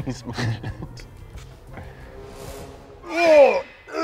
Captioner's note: dramatic sound effect